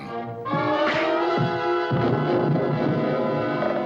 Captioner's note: thud